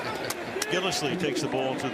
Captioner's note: chuckles